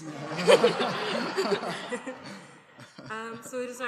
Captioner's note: laughter